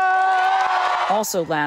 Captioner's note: applause; cheering